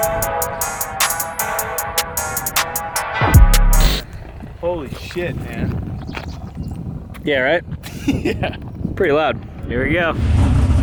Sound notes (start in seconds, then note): 7.9 laughs